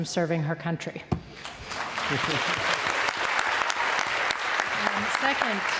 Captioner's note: applause